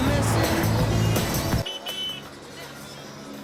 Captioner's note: horns honking